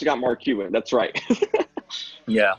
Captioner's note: laughter